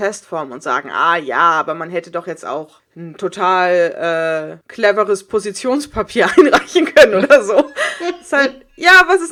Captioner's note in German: beide lachen